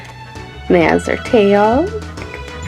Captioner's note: laughs